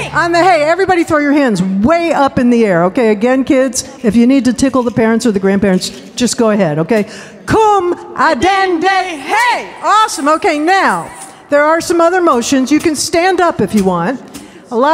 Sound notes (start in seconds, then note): 7.2 speaking foreign language